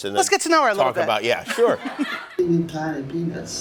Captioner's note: laughter